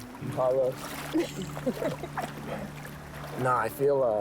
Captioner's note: chuckling